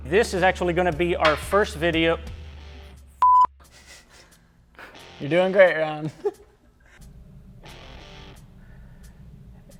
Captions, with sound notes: This is actually gonna be our first video. (beep) (laughing) - You're doing great Ron.